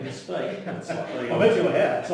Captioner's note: laughs